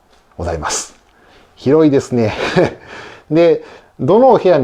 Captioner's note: laughs